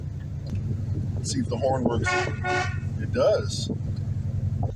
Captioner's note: horn honks twice